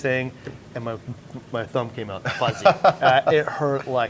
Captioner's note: laughs